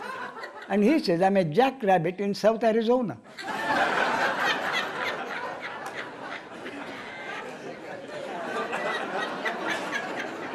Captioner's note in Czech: smích